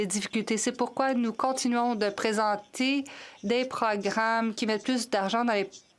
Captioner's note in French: voix de l'interprète